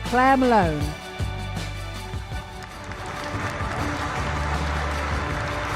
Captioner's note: applause